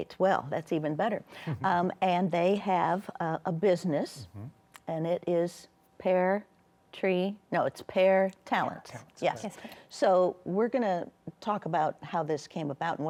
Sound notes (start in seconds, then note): 1.5 chuckles